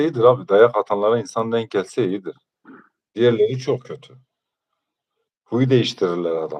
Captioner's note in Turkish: boğazını temizler